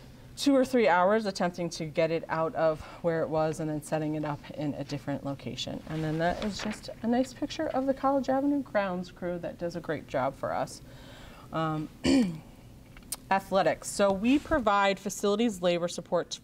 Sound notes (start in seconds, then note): 12.0 clears throat